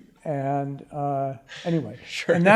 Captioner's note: general laughter